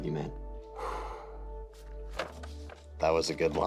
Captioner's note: exhales